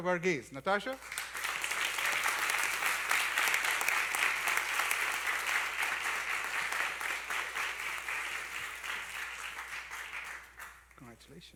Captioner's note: applause